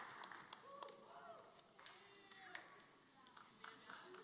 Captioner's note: applause